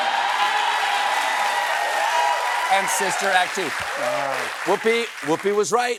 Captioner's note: cheering